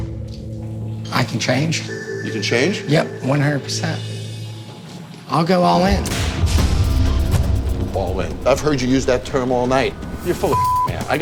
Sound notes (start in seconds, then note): 6.4 whip cracking; 10.5 beep